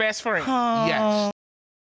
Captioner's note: sighs